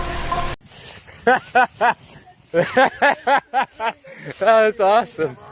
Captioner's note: laugher